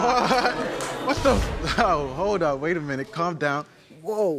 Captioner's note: audience gasps